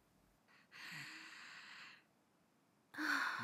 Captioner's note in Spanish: Mae inhala; Mae exhala